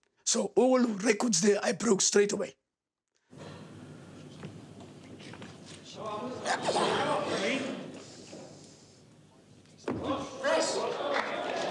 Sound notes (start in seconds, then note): 4.9 crowd murmuring